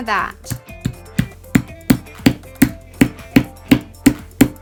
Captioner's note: heavy tapping